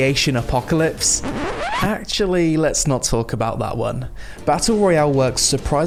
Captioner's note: record scratch